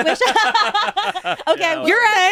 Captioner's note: all laugh